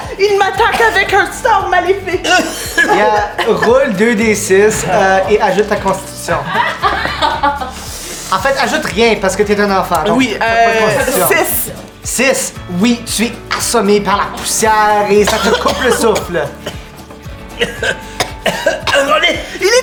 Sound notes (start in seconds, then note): 2.2 both cough; 6.4 Roxanne and Zara laugh; 17.4 Lys and Riz'shar cough